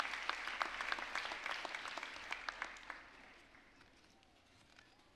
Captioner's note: applause